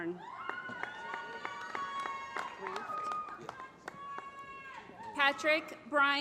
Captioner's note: applause